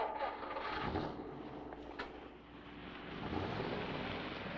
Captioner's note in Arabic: هدير محرك السيارة